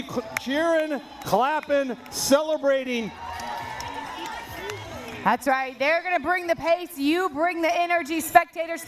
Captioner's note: cheering